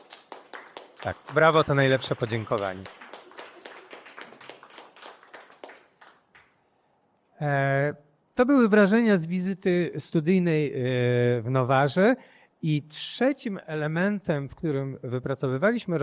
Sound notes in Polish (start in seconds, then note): 4.1 Aplauz